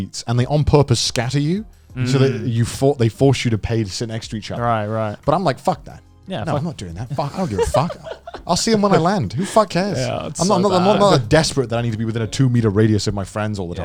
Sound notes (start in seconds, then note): 7.2 chuckling